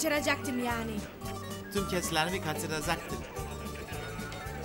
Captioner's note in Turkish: Taklit ediyor